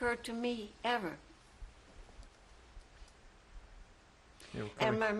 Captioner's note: pauses for 3 seconds